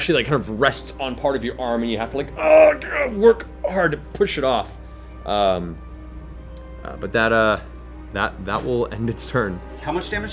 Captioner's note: grunts